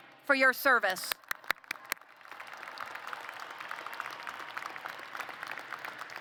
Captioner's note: applause